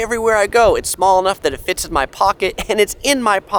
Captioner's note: giggles